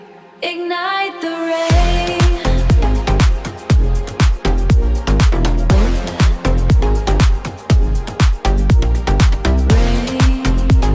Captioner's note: rain